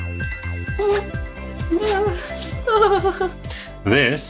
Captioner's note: bell chiming; whining; dog whining